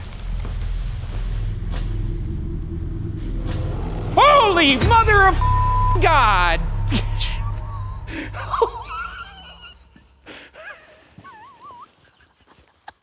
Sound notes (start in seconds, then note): 0.7 eerie music; 4.2 beep; 6.9 laughing